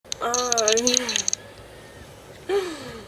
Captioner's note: laughs